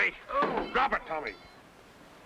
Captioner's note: Tommy yelling